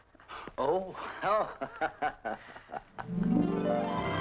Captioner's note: laughs; dramatic orchestral music